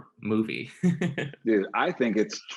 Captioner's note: laughing